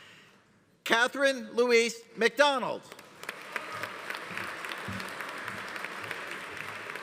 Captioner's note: audience applauding